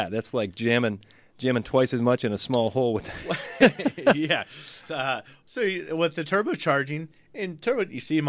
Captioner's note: both laugh